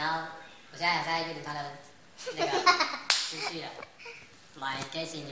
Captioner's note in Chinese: 拍手